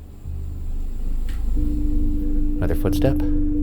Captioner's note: mysterious footstep creaking